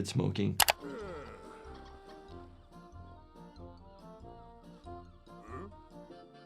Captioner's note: gentle music; dolphins clicking